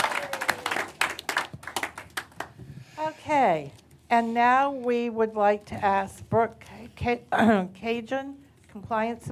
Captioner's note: applause